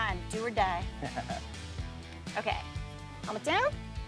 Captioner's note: chuckles